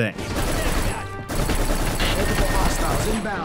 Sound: gun firing

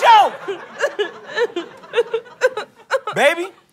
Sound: sobbing continues

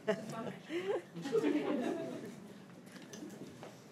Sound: crowd giggling

